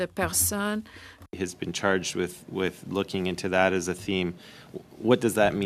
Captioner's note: speaking French